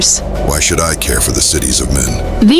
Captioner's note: snarling